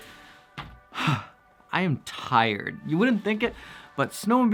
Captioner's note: exhales